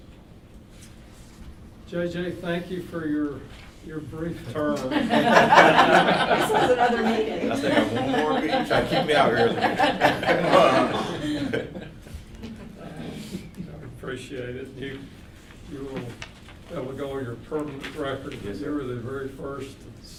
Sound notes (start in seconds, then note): 5.0 all laughing; 9.9 all laughing